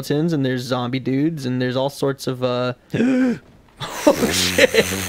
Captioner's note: inhales in terror